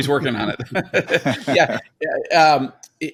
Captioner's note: both laugh